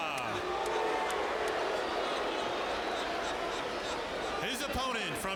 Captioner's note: audience jeering